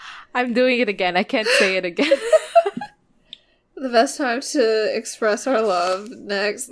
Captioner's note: laughs